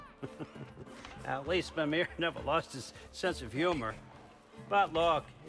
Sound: laughing; laughs

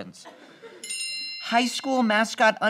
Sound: bell noise

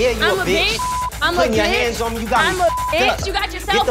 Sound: beep

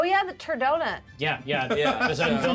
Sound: speaker laughs

